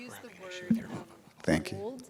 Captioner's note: stage assistant murmuring